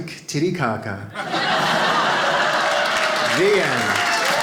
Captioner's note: audience laughs